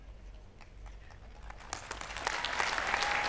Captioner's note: applause